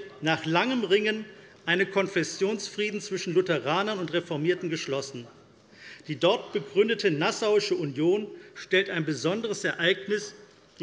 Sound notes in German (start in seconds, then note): none